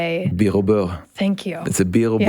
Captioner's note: speaks French